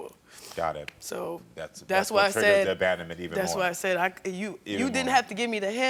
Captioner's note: none